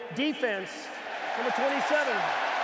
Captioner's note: cheering